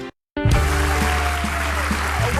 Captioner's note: audience clapping